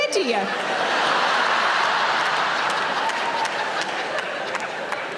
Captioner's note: audience laughing